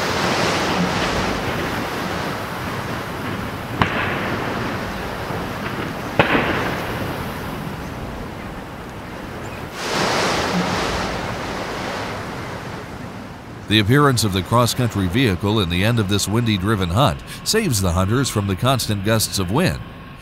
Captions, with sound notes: [wind blowing] [gunshot] The appearance of the cross-country vehicle in the end of this windy driven hunt saves the hunters from the constant gusts of wind.